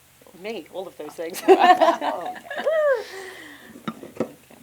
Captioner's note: all laugh